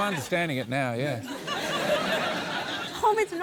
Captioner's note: laughter